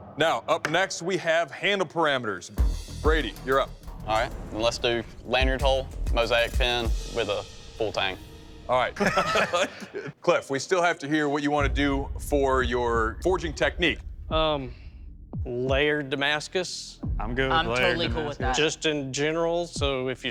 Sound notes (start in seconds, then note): 8.9 laughter